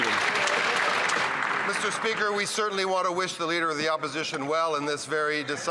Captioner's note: some Applause